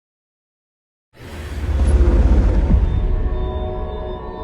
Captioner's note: logo thunders